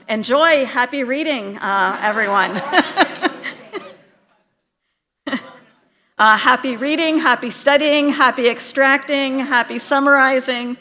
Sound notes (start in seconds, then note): 2.2 laughter